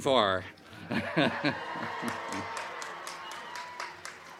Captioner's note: crowd cheering